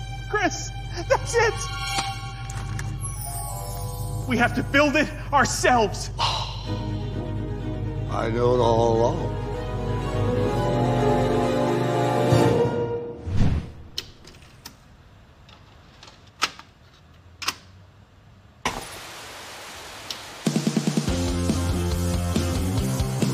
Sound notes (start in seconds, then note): 18.8 static; 21.1 upbeat music playing